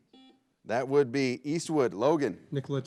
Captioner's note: buzzer blares